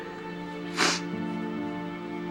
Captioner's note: sniffling